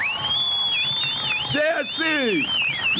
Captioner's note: sirens blaring